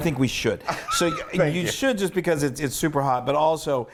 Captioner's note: laugh